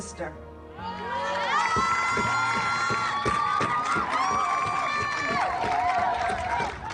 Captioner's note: group cheering; drums beating